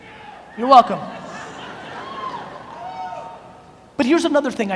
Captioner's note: audience laughs